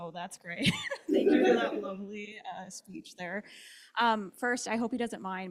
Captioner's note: laughs